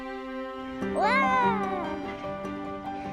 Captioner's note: excited children